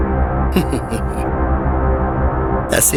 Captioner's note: chuckles